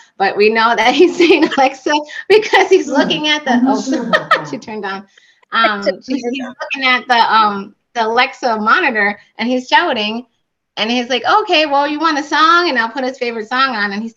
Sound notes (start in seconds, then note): 3.7 laughter